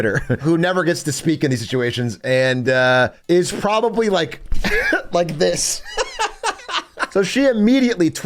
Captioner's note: laughs